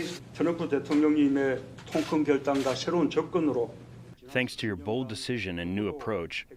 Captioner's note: through translator